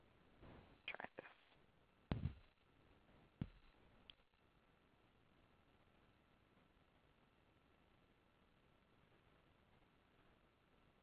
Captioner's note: silence